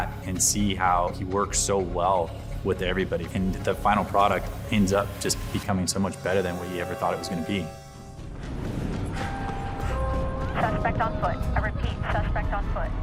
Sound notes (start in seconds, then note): 8.4 Jason pants